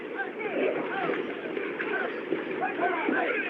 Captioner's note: chattering, Shouting